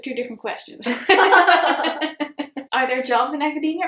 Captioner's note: both laughs